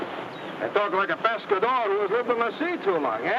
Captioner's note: speaks in foreign language